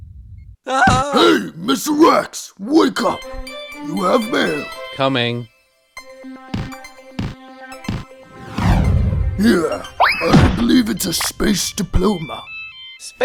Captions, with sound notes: (Yell) Hey Mr Rex! Wake up you have Mail! Coming! Here! I believe it's a space Diploma!